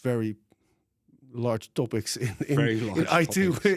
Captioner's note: laughs